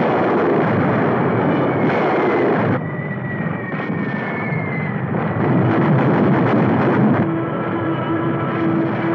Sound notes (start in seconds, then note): 4.9 explosion booming